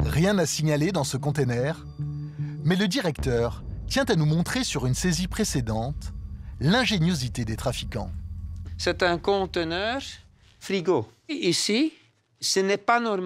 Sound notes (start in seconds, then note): 8.9 French spoken audio